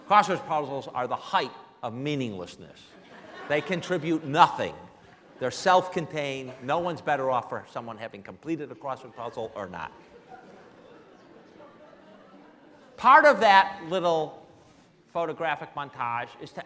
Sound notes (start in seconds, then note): 9.9 laughing